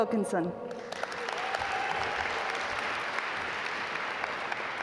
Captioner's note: audience applaud